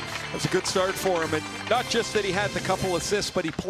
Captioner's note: applause